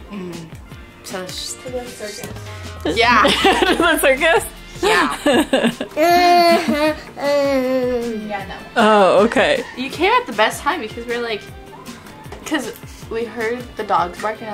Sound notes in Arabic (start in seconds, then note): 4.8 يضحك